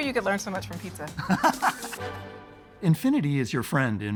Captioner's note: laughs